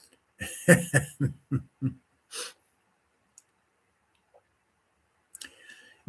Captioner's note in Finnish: naurua